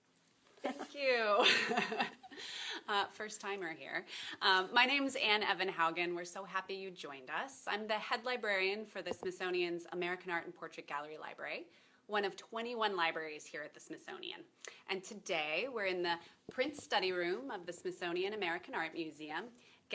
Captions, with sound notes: Thank you (laughs). First timer here. My name is Anne Evenhaugen, we're so happy you joined us. I'm the head librarian for the Smithsonian's American Art and Portrait Gallery Library, one of 21 libraries here at the Smithsonian and today, we're in the prints study room of the Smithsonian American Art Museum,